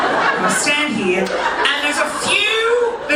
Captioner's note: audience laughing